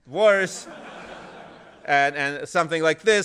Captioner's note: laughter